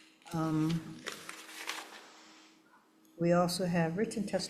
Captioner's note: papers rustle